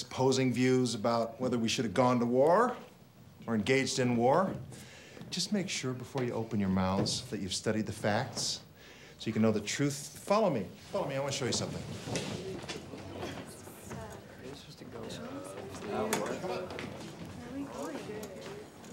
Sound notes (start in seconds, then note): 11.3 students murmuring; 15.6 students chattering